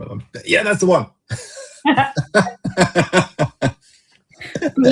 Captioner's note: laughter